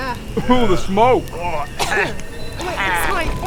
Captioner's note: chokes; cough